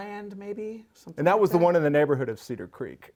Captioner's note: none